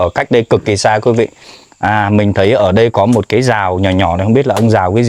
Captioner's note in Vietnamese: khịt mũi